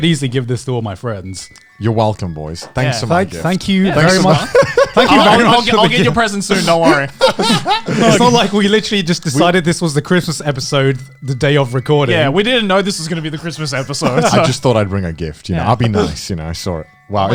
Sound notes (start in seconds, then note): 6.4 chuckling; 7.2 laughing